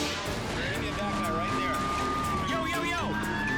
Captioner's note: scene swooshing; sirens screaming